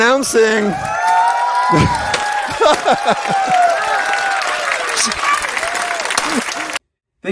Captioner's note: cheering and applause